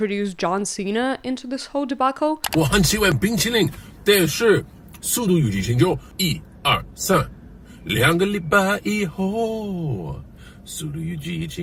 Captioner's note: John Cena speaking Mandarin